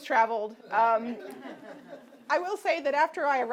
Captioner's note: audience laughing